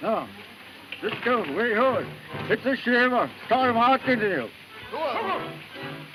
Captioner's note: Red Hatchet speaking in foreign language